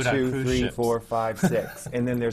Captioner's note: laughs